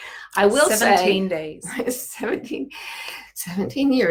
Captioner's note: laughing